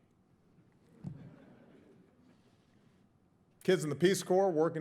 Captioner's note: audience chuckles